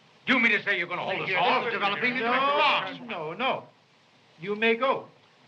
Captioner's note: commotion